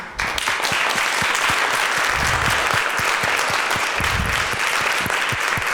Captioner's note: applause